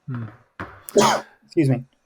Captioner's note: coughs